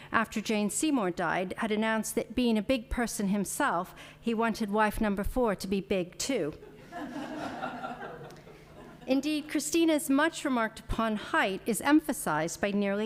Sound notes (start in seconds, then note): 6.7 audience laughing